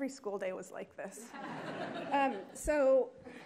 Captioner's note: attendees laughing